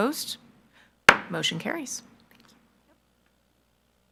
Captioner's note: gavel